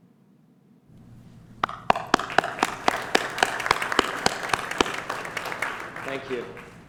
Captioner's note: applause